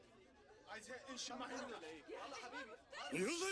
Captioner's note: speaking Arabic